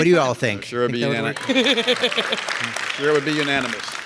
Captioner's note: laughs